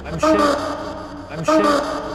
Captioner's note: ghostly shrieking